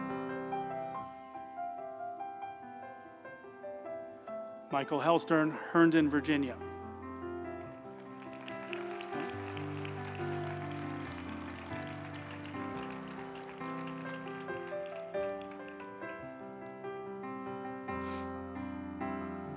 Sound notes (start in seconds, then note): 7.6 group applauding; 8.3 uplifting music